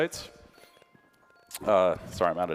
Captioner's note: ringing